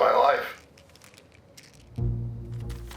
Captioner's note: pills rattling